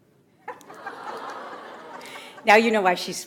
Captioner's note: audience laughs